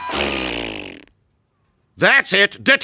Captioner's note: flatulence sounding